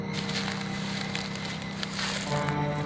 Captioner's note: footsteps in leaves